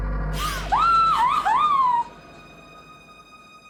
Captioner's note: Kara screams